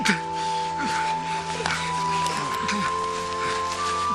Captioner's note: panting